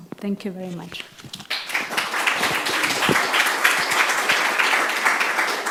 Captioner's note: applause